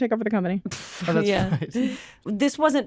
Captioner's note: chuckles